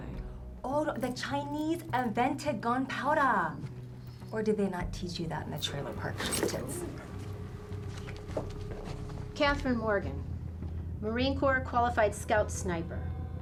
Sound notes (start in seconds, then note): 0.1 faking accent; 3.7 no accent